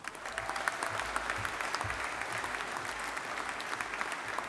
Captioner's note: audience applauding